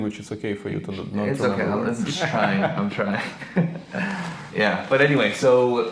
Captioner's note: laughing